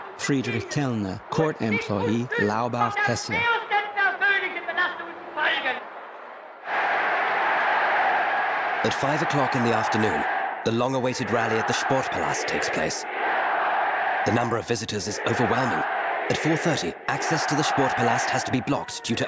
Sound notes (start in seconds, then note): 0.3 speaking foreign language; 6.7 people cheering